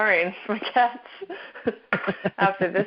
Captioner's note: both laughing